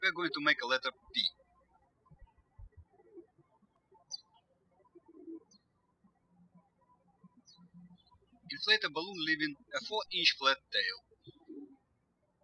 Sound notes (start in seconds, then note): 2.6 birds chirping